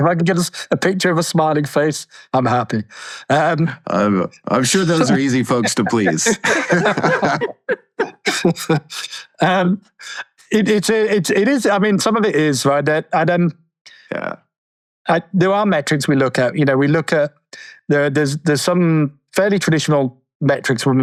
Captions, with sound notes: If I can get us a picture of a smiling face, I'm happy. - I'm sure those are easy folks to please. (everyone laughs) - I mean some of it is, right? And then, there are metrics we look at. You know, there's some fairly traditional metrics